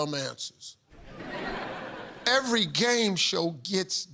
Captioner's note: laughter